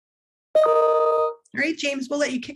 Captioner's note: computer notification chimes